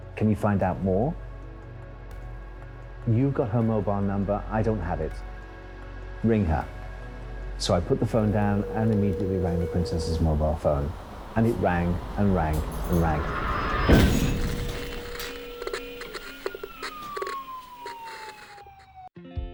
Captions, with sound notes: Can you find out more? You've got her mobile number, I don't have it. Ring her. So I put the phone down and immediately rang the Princess' mobile phone. And it rang, and rang, and rang. (car crashing) (phone ringing) (car alarm sounding) (sirens wailing)